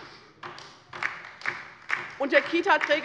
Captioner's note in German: Beifall bei der LINKEN